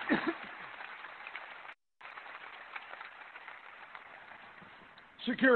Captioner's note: applause